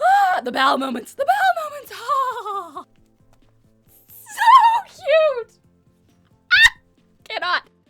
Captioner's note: fangirling noise; more fangirling sounds